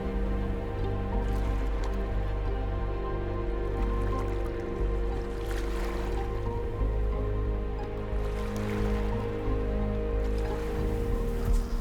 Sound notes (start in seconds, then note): 0.1 melancholy music; 3.3 water rippling